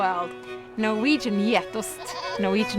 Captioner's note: goat bleating